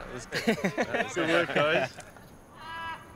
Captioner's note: all chuckle